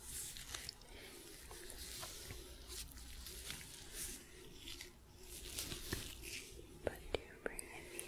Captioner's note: glove sounds, sticky sounds